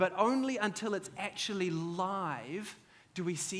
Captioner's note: none